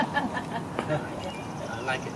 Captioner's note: women laugh